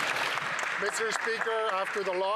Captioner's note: some Applause